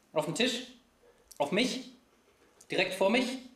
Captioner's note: none